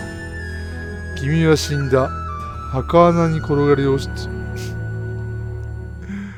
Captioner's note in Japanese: 笑い